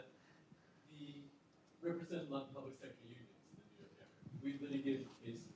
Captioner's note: attendee speaking quietly